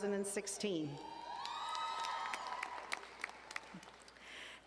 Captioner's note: audience cheering and applauding